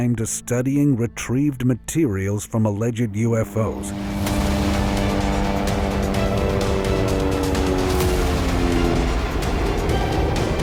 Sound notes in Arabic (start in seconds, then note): 2.9 هدير المروحية; 4.1 موسيقى مُرعبة